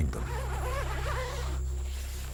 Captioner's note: zipper whines